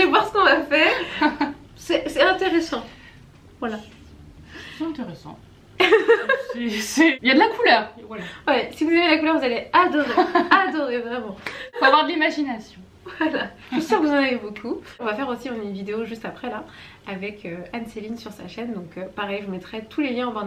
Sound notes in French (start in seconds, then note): 10.0 rires